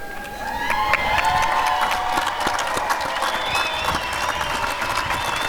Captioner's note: cheering and applause